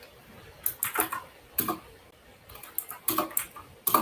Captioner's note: keyboard clacks